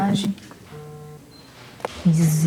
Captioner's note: notification vibration; multiple notifications